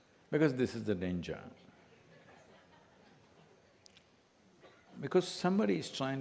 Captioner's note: few laugh